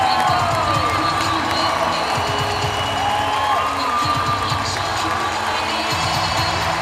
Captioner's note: cheering